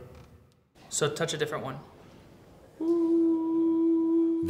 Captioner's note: steady voice-like tone